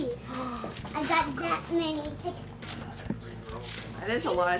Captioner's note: gasps